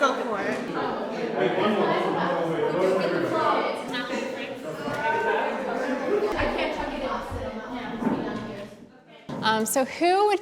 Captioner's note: background chatter